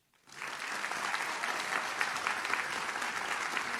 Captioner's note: audience claps